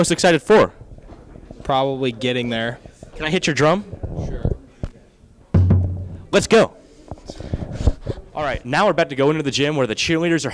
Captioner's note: boom